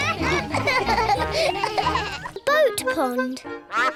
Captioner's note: duck quacks